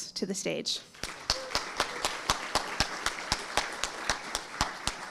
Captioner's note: audience applauding